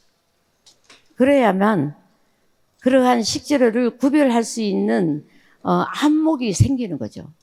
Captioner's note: speaking in foreign language